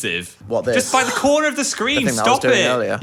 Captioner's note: person gasping